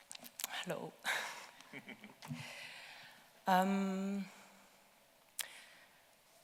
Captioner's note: laughing